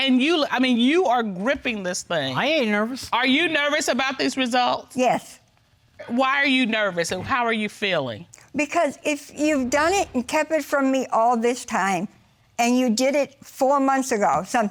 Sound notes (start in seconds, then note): none